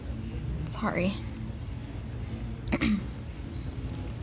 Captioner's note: throat clears